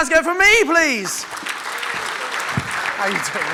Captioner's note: audience clapping